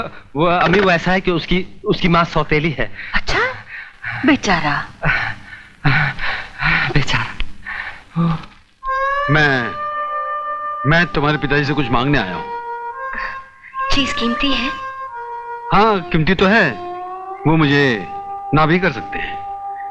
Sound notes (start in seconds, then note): 5.0 sighs